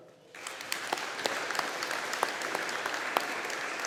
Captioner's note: audience applauding